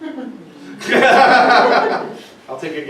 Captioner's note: laughing